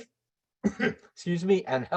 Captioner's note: coughs